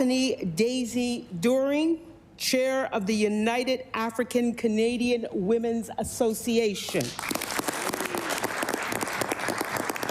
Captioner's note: applause